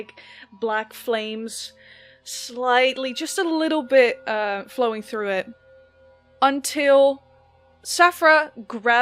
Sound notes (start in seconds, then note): 5.3 the chiming swells